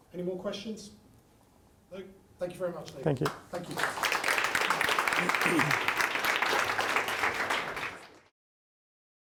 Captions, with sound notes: - Any more questions? No? Thank you very much Leo! - Thank you. - Thank you. (applause)